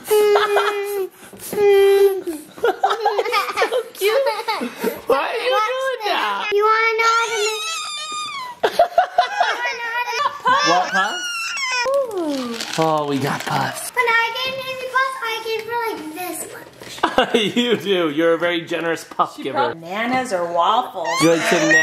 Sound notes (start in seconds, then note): 0.1 dad laughs; 7.6 whines; 8.7 dad laughs; 11.1 screams; 17.0 dad laughs; 21.1 screams